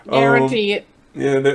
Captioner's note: laughs